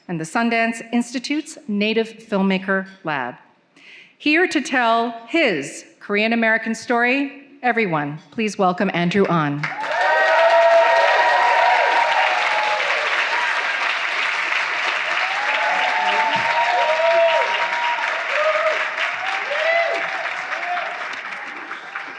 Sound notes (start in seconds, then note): 9.7 attendees cheering; 9.7 attendees clapping hands; 17.0 attendees cheering; 17.0 attendees clapping hands